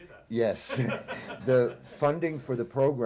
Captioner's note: laughter